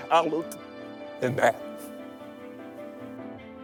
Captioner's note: choking up